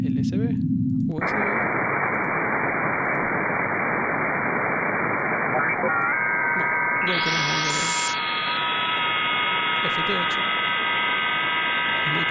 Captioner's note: radio and speaker voice